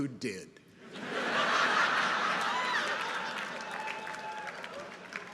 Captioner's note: people laughing